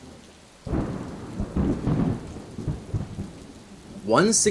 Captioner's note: rain falling; thunder